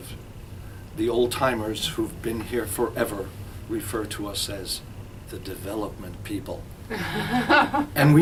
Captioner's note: both Laugh